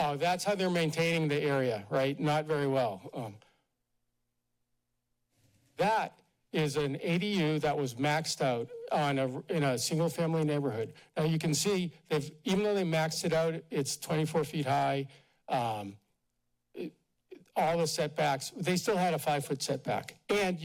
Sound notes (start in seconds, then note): 3.2 pause